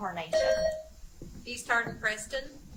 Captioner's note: buzzer chimes